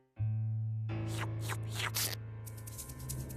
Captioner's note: slurping